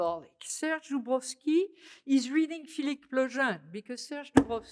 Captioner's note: french